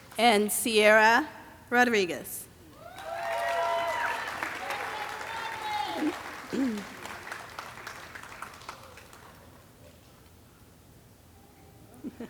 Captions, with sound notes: And Sierra Rodriguez. (audience cheering and clapping)